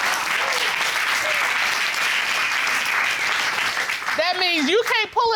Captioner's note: applause